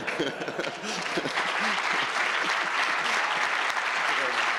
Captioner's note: applause